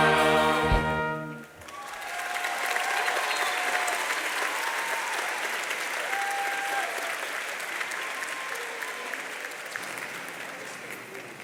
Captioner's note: applause